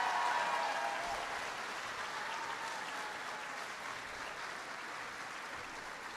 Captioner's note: applause